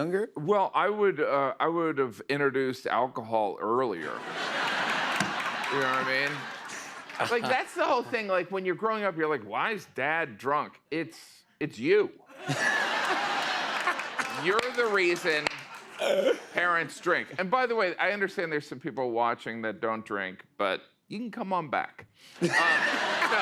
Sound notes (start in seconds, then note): 4.0 laughter and applause; 12.3 laughter; 22.4 laughter